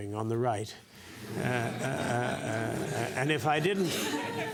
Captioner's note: laugh